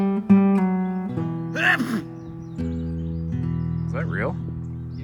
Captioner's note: dramatic sneeze